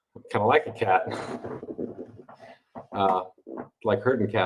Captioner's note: chuckles